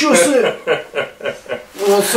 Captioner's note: laughing